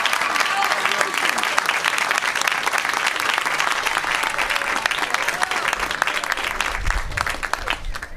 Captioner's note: applause